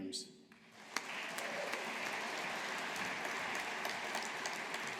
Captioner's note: audience applauding